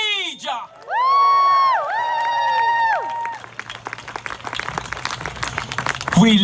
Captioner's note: applause and encouraging shouting